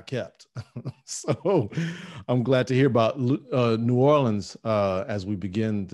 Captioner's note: laughing